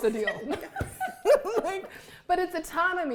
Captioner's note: all laughing